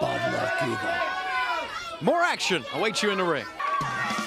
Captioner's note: crowd chatter